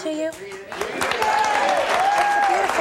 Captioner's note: audience applauding